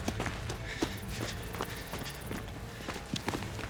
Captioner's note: panting